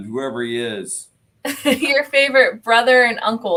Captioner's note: laughter